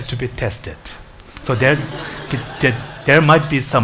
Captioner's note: audience laughs